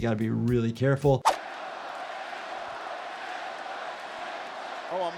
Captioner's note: audience cheering